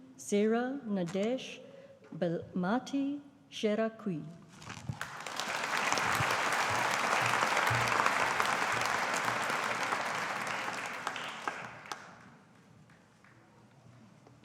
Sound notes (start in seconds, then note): 4.9 audience applauding